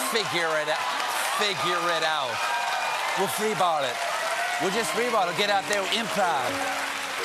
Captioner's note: cheers and applause